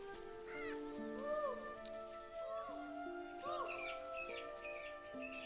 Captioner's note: child calling